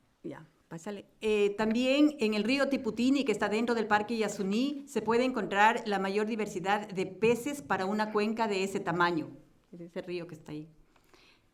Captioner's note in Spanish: Español